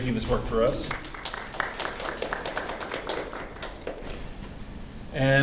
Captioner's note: applause